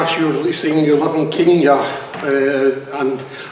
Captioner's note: speaks with heavy accent